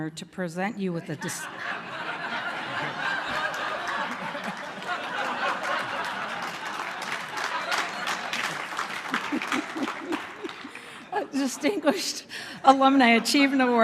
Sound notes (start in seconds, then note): 2.2 laughter